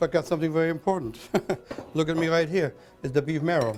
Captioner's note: laughs